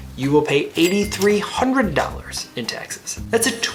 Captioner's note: cash register dings